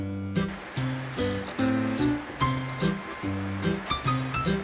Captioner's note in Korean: 부스럭부스럭